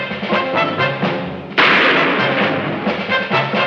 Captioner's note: shot firing